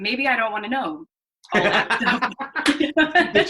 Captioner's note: laughter